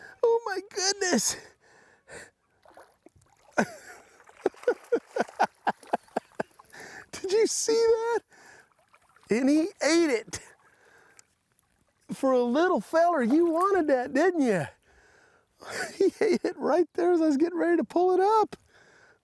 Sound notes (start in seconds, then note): 4.3 chuckles